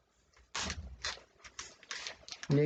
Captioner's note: ripping of packaging tape